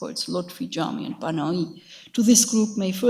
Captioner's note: speaks in a foreign language